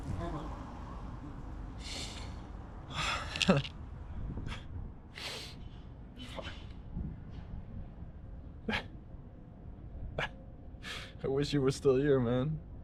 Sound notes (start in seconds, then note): 1.8 sniffling; 3.1 laughing